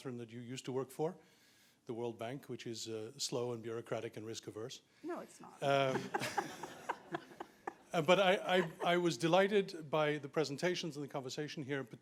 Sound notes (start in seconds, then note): 5.7 chuckles; 5.7 audience chuckling